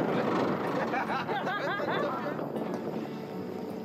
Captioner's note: laughter